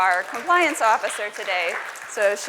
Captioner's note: applause